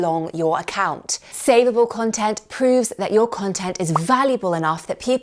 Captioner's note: popping